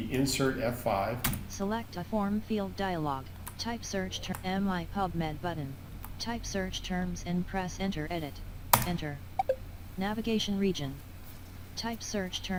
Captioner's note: sound of screenreader